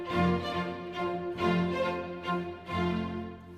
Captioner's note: none